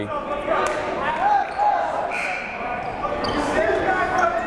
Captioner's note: yelling